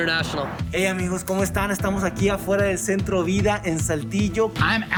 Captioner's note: speaking in foreign language